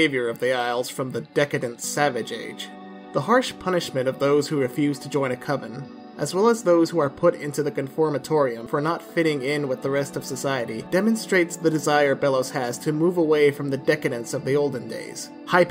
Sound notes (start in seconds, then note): none